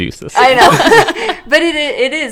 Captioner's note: laughs